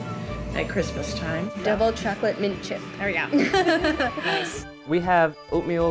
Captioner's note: chuckles